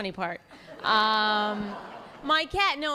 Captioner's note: laughter